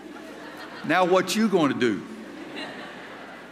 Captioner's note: laughter